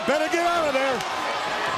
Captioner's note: crowd cheering